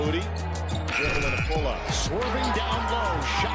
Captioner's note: buzzer sounds